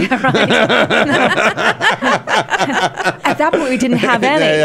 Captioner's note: laughing